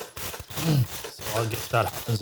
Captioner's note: metal Clanking